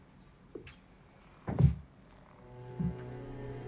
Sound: thud

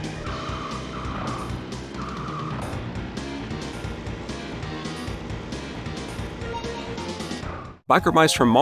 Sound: game sounds

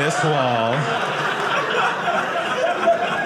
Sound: audience laughing

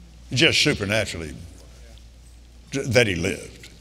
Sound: none

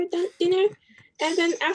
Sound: chuckles

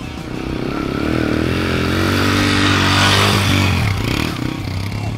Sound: dirt bike engine revving

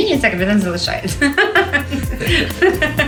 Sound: laughing

